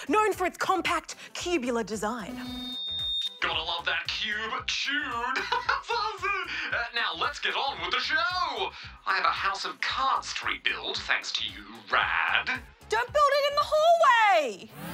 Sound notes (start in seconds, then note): 5.4 laughs